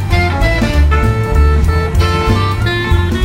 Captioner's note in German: Applaus